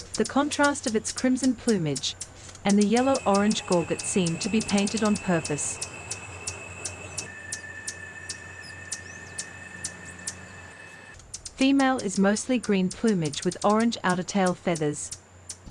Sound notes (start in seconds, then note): 5.9 birds chirping